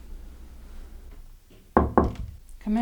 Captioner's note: knock